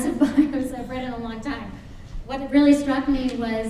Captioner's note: chuckles